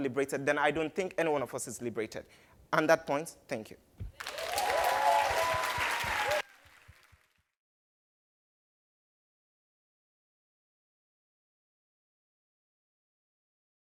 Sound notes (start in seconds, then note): 4.2 cheers and Applause